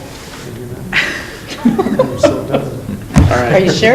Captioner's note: laughing